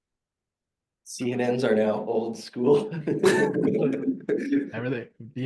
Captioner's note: laughing